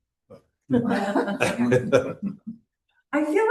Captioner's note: laughter